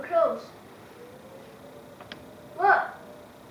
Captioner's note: tornado siren goes off